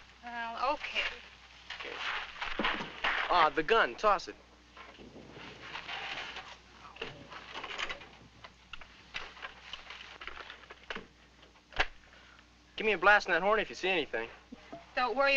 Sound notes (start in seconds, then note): 11.7 gun cocking